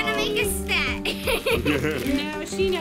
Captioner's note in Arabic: يضحك